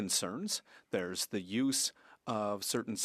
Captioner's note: speaking French